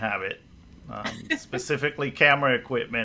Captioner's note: laughs